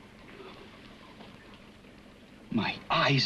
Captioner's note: liquids bubbling